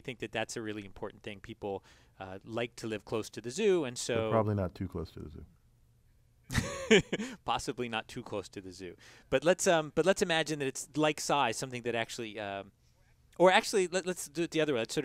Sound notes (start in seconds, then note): 6.5 laugh